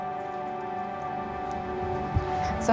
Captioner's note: water trickling